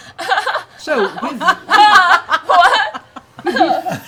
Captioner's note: nervous laughter